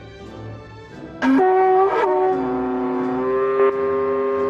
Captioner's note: horns blowing